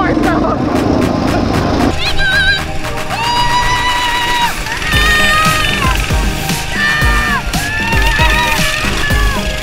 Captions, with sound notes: - Hang on, whoo! (shouting)